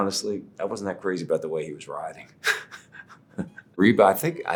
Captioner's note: chuckling